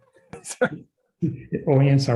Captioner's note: chuckles